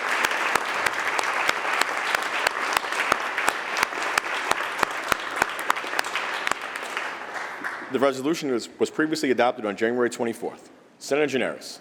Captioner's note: applause